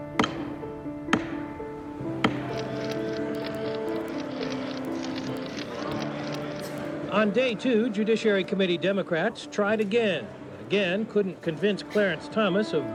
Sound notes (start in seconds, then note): 0.0 gavel banging; 2.3 cameras clicking